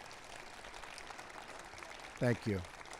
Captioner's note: applause